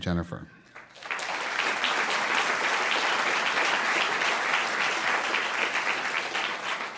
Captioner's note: applause